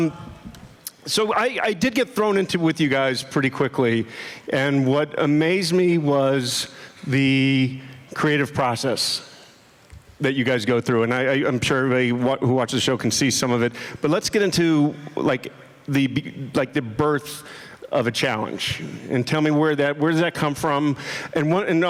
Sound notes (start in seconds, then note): none